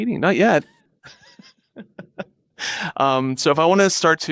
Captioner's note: laughing